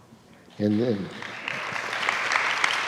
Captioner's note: students applauding